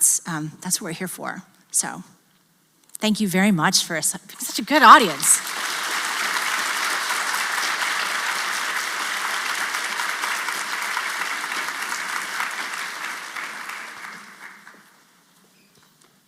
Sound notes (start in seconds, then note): 4.7 applause